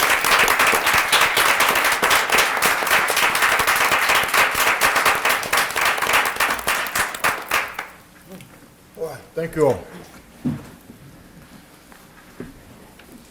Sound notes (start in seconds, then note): 0.0 applause